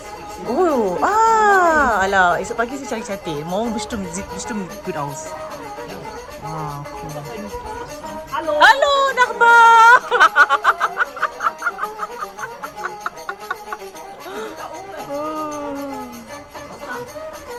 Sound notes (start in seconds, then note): 10.1 speaking German; 13.7 laugh